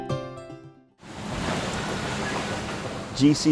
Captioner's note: water splashing